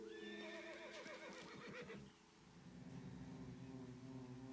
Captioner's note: horse whinnying